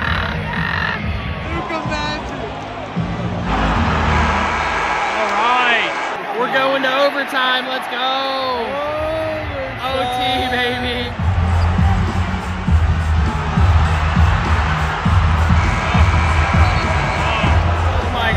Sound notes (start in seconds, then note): 0.1 screaming; 3.4 horn buzzing; 3.7 crowd cheering; 12.0 crowd cheering; 15.6 horn buzzing